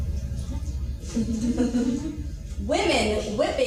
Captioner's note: laughing